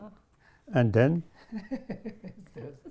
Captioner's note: all laugh